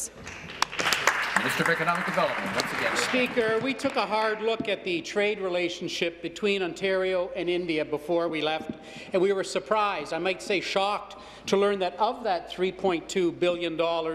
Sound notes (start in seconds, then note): 4.0 applause